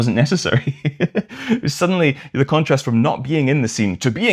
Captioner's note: laughter